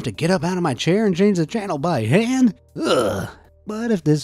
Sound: groans

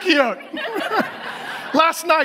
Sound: audience laughs

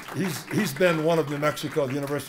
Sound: applause

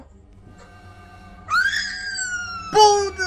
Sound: screeeeech

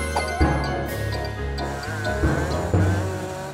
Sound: zooms

